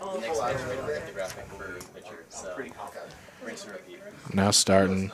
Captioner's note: indistinct chatter